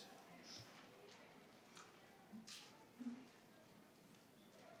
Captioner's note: participants chatter